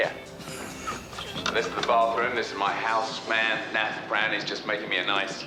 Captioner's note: chuckles